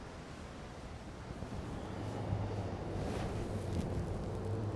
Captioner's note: traffic rumbles